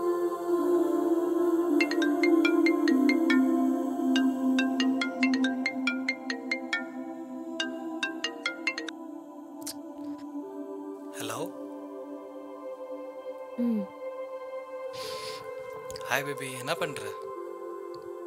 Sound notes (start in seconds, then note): 1.8 mobile ringing